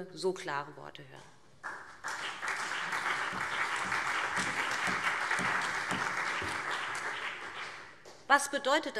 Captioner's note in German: Beifall BÜNDNIS 90/DIE GRÜNEN und CDU